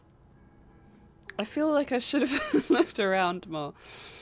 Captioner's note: laughs